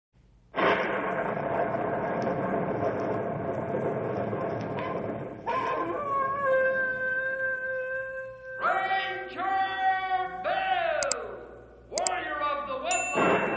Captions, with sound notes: [thunder] Ranger Bill! Warrior of the Woodland!